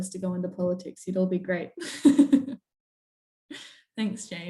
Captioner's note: laughs